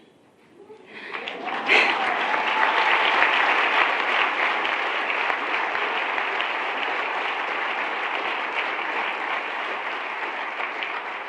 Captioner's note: really loud applause; applause dies down